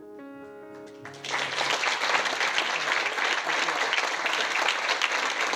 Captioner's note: gentle piano music; audience applauding